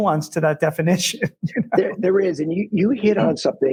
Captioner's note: laughs